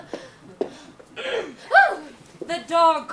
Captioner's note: Merriman clears throat